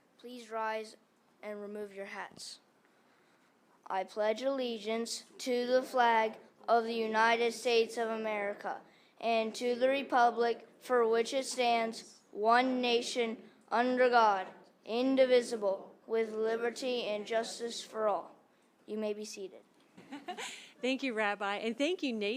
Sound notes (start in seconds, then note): 20.0 laughter